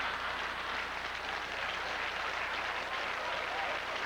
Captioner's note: howling laughter, sustained applause